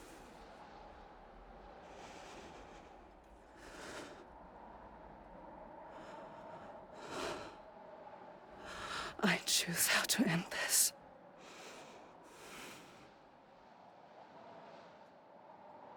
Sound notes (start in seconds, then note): 4.6 wind blowing